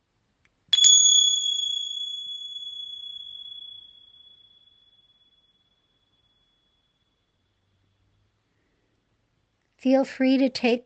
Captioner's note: bell rings